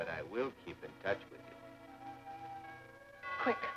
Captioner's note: doorbell rings